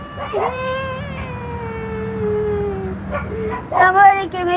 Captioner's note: cryryining